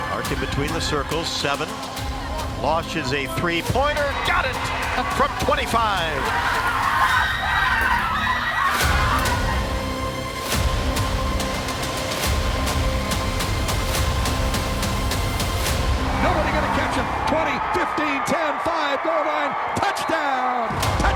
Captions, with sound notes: >> between the circles seven, launches a three pointer. Got it. From 25. [ Crowds Cheering ]